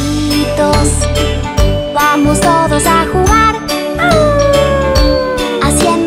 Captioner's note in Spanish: Aullido